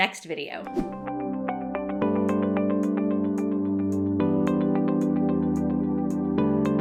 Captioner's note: swishing; light music